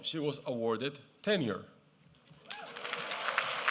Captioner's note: applause